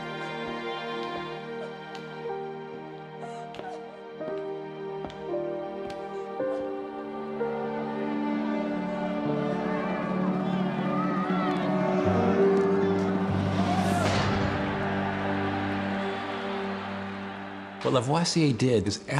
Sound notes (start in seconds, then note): 10.0 <i> crowd yelling</i>; 15.0 <i> crowd cheering</i>